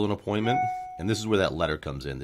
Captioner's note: screen chimes